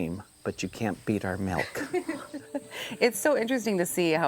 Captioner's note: laughs